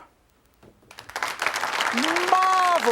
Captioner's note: audience applauding